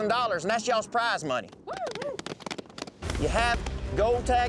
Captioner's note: cowboys cheering, clapping